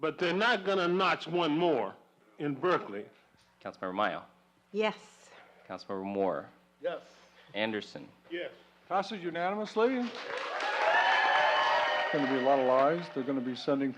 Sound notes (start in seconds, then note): 4.3 voiceover; 9.9 audience applause; 12.8 voiceover